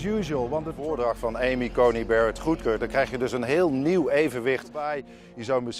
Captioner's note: speaking in foreign language